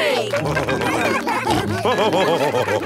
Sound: all cheering; laughing

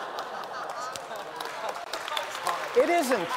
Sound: laughter; applause

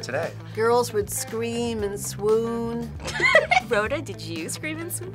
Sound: laughs

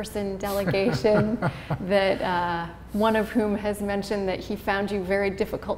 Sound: chuckle

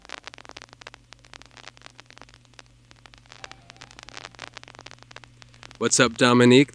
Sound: record static

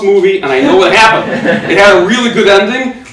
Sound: audience laughing

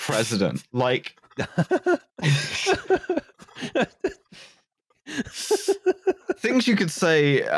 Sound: laughter

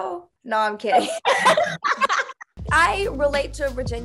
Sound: both laugh

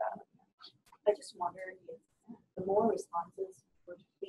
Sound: voiceover

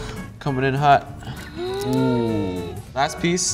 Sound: gasping

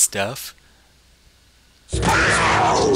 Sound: monster roars and retches

